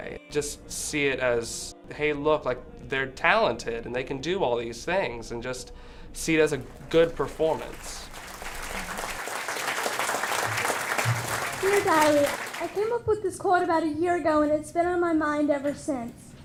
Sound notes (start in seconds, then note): 6.9 applause